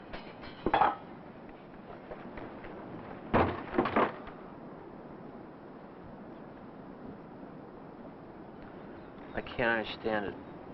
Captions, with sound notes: *clunk!* *thump!* I can't understand it.